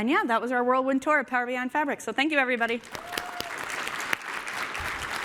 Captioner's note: applause